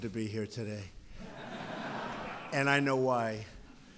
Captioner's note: laughter